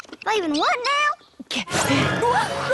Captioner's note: panting; all gasp